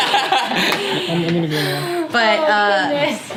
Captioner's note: group laughs